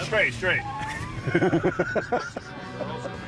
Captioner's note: tires screech; laughs